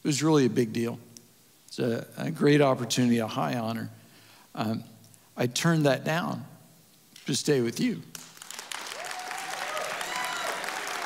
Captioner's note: applause And Cheering